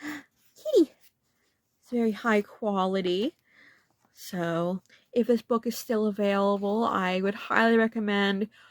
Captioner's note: gasp